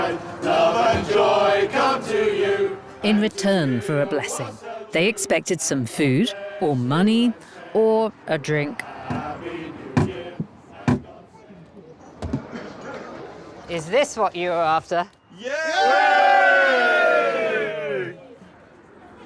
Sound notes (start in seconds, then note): 15.7 everyone cheers